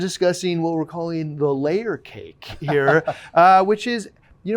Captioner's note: laughing